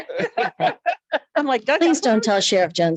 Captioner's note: light laughter